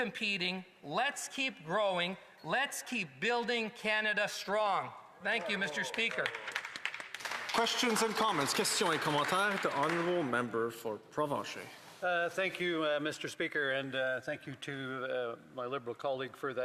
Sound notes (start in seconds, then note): 10.0 some Applause